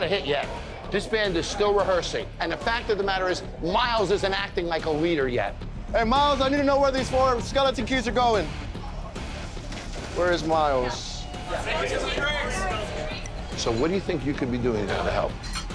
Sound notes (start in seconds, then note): 11.0 loud chatter